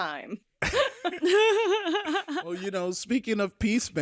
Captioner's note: laugh